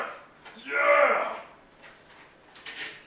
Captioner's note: horrible creaking noises